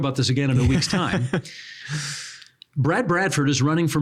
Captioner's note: laughing